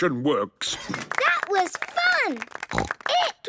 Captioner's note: applause